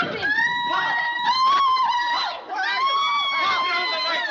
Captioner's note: screams, Shouts